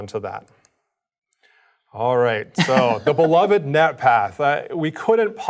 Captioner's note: laugh